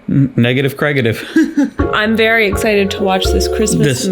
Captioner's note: laughs